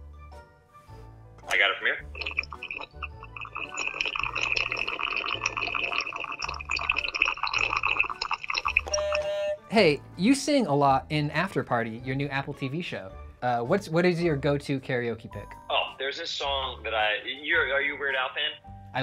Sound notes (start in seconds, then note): 1.8 slurping begins; 5.0 slurping continues; 7.8 slurping